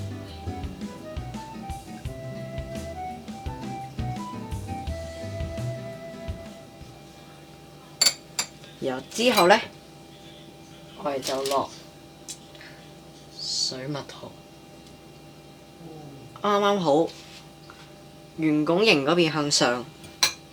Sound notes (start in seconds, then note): 8.0 spoon tapping on saucer